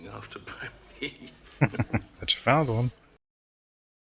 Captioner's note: chuckling